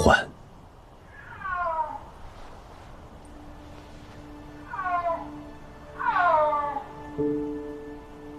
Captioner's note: the calls of snow leopard